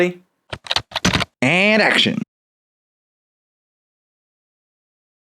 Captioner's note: typing